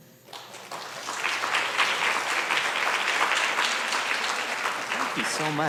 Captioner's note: applause